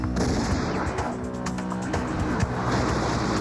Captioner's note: gunshots